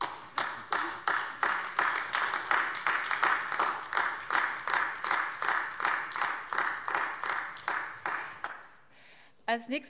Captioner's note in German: Beifall AfD